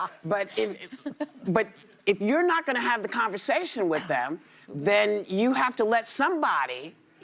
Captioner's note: laughter